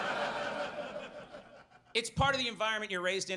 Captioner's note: audience laughs; laughs